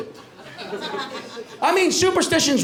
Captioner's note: light laughter